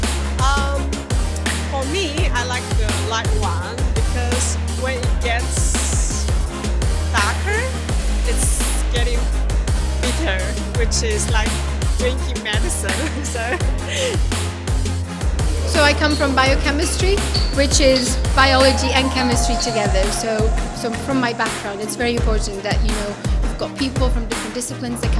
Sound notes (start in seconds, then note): 13.8 laughs